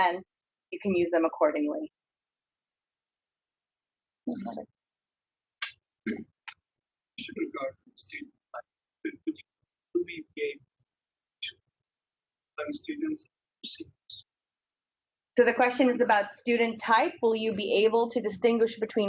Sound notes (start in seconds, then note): 7.6 man speaks through warped and choppy audio